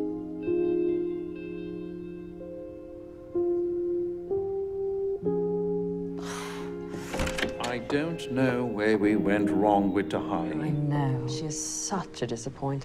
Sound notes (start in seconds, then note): 6.2 sighs